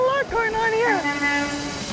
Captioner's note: horn honking